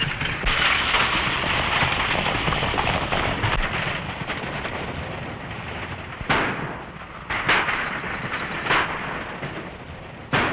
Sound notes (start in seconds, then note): 0.0 hooves clattering; 6.2 gunshots